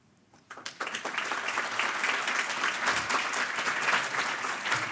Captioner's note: audience applauding